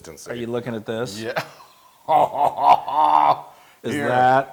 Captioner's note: laugh